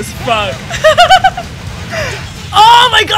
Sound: laughter

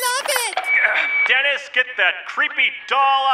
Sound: through megaphone

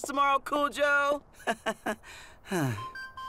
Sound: laughing, sighing

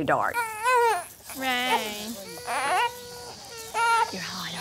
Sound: cries

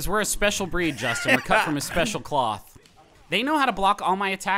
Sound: laughing

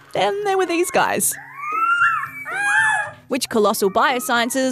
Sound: both howl

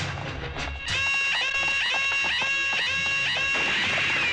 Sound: alarms Wailing

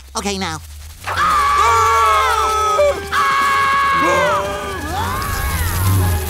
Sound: screaming

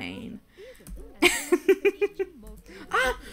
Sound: laughs

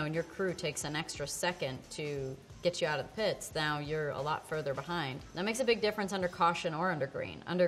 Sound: none

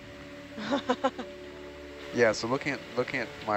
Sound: someone laughs

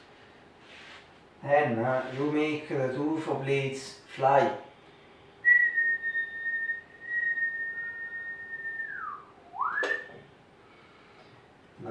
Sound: whistle

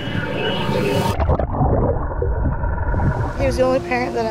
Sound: water bubbling

